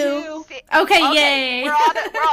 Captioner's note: laughter